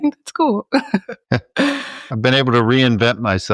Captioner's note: both chuckling